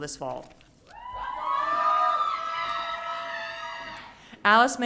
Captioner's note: audience cheering